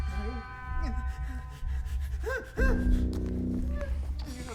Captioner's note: whimpering